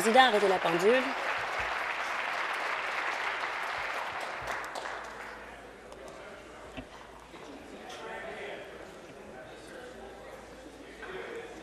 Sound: applause

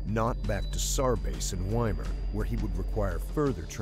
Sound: voiceover

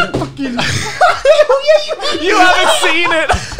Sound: all laughing heartedly

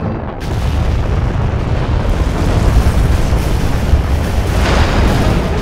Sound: rocket engines roaring; rocket engines exploding

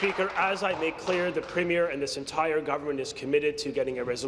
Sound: applause

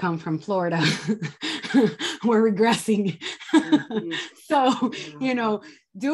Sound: laughs

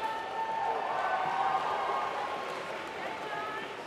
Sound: applause

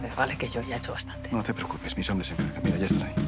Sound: knock on the door

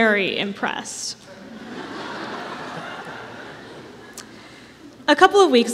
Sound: laughter

